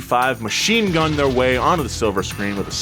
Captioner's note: gunshots bang